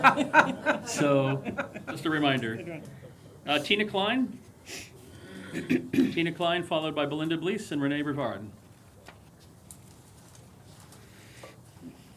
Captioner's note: laughter